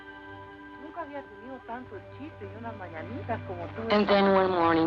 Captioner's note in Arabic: امرأة تتحدث الإسبانية